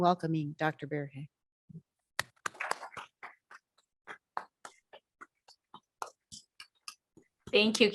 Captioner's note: audience clapping